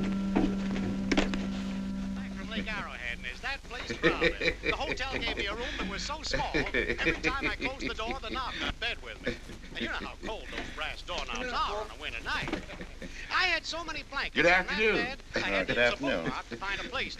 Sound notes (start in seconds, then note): 3.1 radio; 3.7 man laughing